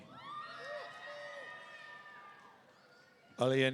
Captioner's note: audience cheering